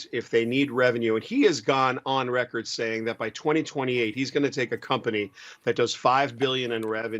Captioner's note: laughs